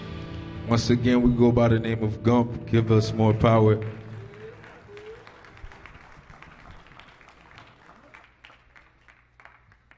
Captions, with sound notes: Once again, we go by the name of Gump, Give Us More Power. (audience applauds)